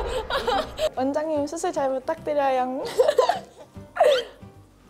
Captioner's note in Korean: 웃음